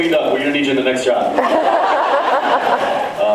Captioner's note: laughs